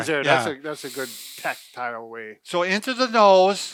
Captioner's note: inhaling